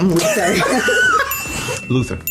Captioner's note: laughter